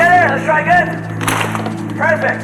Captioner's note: audience clap